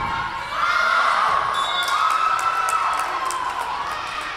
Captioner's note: whistle blowing